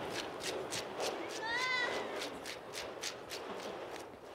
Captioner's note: baby seal cries